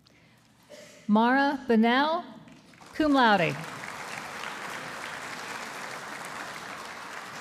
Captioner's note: audience applauding